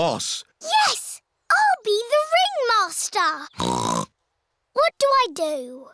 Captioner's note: snorts